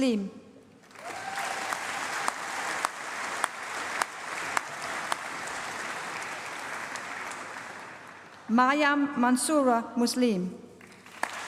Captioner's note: applause